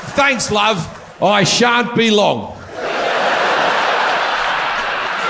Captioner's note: audience laughs